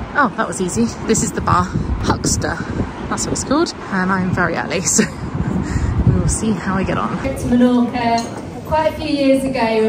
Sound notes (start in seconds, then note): 5.3 laughing